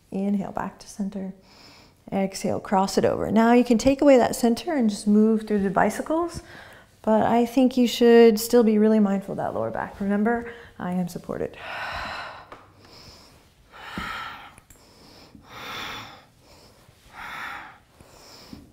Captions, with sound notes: Inhale, back to center. Exhale, cross it over. Now you can take away that center and just move through the bicycles. But I think you should still be really mindful of that lower back. Remember, I am supported. (exhaling and inhaling)